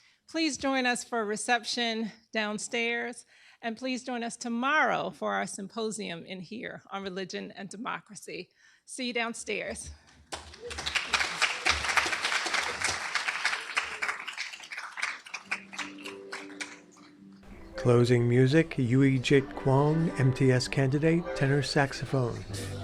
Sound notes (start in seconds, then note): 10.2 applause